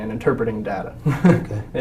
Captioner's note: laugh